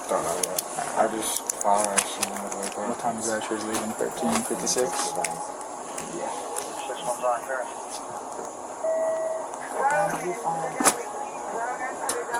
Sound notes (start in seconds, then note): 6.1 radio chatter; 9.5 radio chatter